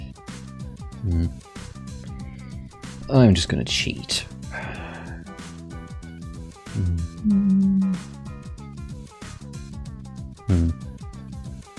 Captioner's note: sigh